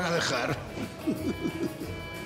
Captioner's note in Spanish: Ríe